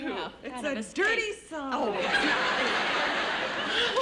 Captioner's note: laughter